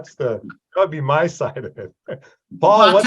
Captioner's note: laughs